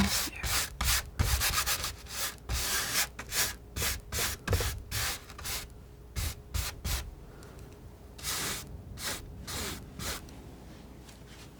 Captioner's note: scratching